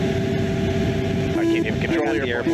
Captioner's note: beeping